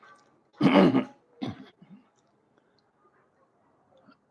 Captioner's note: coughs; clears throat